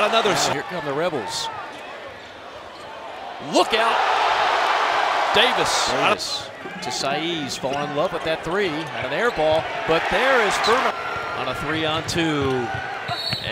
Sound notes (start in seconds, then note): 4.3 crowd cheering; 13.1 whistle blows